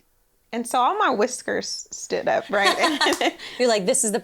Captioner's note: laughs